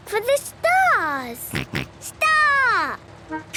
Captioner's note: snort